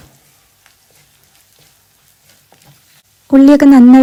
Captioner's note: cooking sound